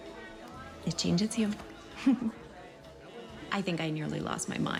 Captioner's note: chuckles